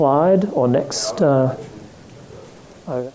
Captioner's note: mumbling